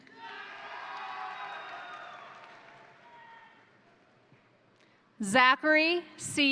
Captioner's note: crowd cheering; crowd applauding